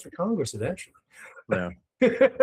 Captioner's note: laughing